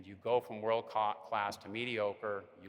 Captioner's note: none